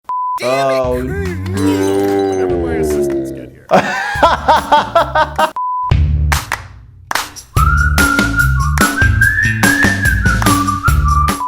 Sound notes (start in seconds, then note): 0.0 quick beep; 3.7 laughs; 5.6 quick beep; 7.4 upbeat whistling music